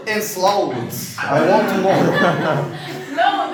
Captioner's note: laughing